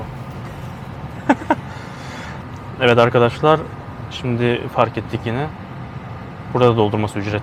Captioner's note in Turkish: kahkaha